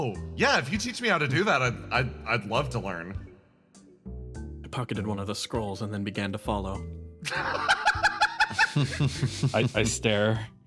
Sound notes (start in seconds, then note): 7.3 laughs